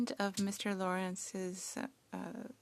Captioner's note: speaking French